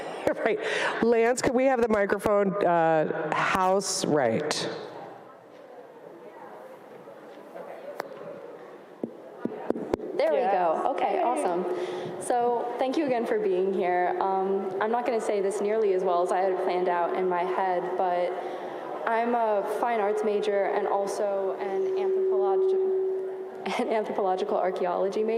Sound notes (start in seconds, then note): 9.4 speaker tapping microphone